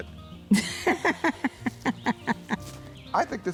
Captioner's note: woman laughing